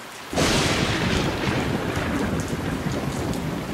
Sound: thunder crashes

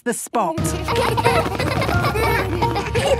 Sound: laughter

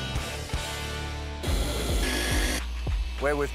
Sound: tools whirring

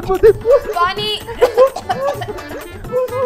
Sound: coughing

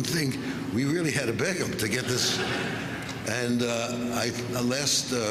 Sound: laughter

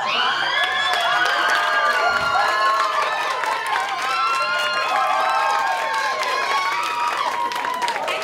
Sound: applause

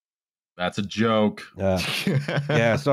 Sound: laughter

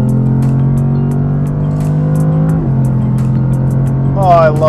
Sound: engine revving

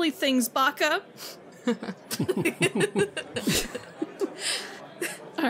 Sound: all laugh

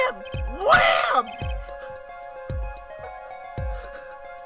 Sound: laugh

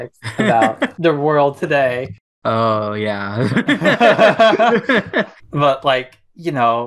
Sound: laughs; both laugh

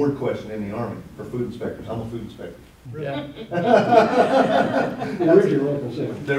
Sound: laughter

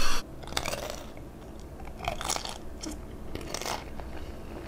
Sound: food crunching

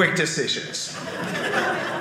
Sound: audience laughing

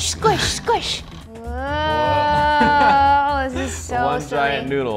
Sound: laughs

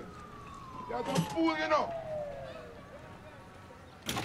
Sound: siren wailing in the distance

